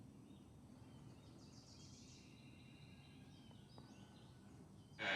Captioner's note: birds chirping